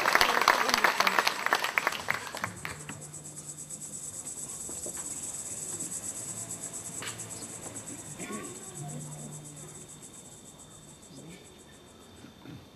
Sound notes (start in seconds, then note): 3.1 ακούγεται τερέτισμα τζίτζικα